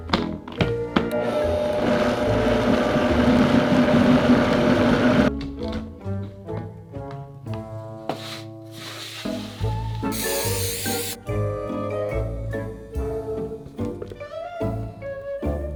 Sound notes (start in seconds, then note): 1.1 blender running; 8.7 pan sliding across table